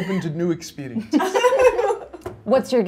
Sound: all laughing

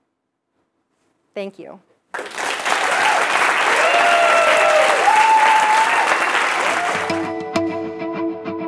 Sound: applause

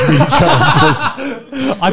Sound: laugh

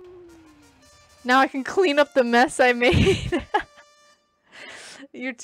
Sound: laughs

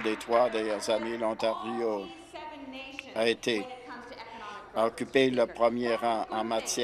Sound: applause

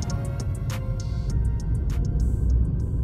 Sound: unimpressed ether noises

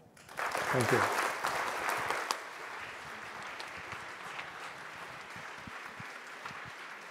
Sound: audience applauds

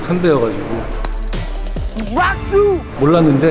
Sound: clap

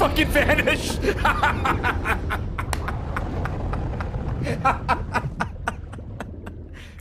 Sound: laughs

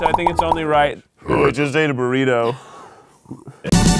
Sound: burps

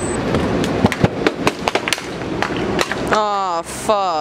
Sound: spray paint cans falling on pavement

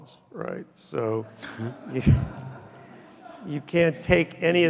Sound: audience laughing

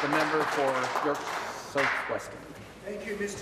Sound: applause

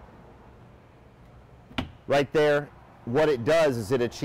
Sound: thuds

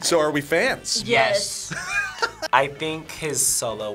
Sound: laughs

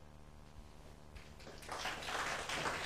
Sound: applause

